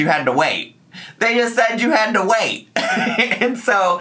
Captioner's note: laughs